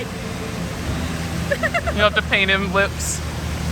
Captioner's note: laughs